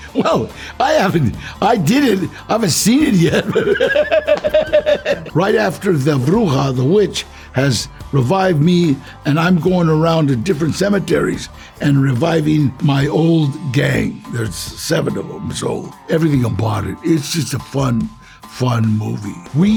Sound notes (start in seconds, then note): 4.1 Danny laughs